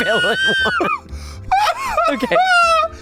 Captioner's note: all laughing